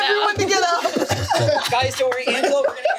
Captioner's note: everyone laughs